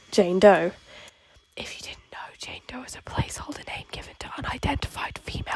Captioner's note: whispering